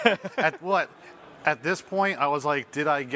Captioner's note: chuckles